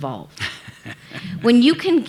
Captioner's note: laughing